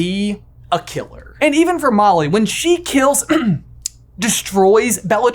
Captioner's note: clears throat